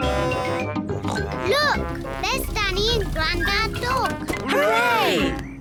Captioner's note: horn blares; snorts